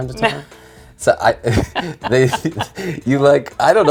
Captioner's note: both laughing